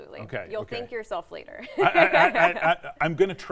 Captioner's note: laughs